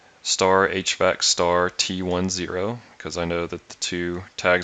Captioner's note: hvac